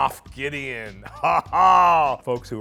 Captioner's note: laughs